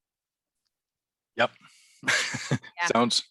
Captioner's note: chuckles